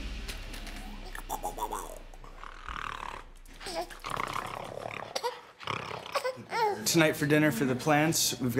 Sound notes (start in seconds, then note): 0.6 making mouth sounds; 4.1 snarling